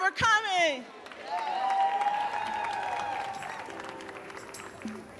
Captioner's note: audience cheering and applauding; mid tempo mellow music